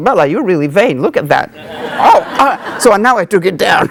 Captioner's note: audience laughing